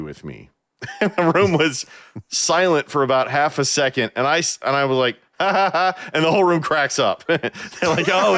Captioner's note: laughing